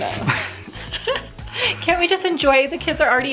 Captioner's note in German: lacht